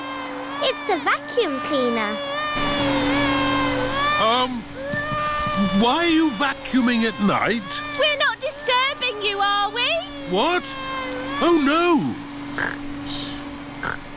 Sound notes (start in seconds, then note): 2.9 crying; 12.5 snores